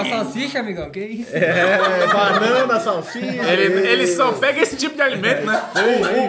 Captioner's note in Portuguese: risos